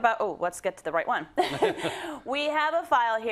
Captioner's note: laugh